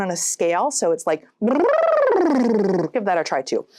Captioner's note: blowing raspberries